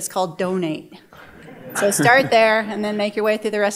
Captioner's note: audience laughter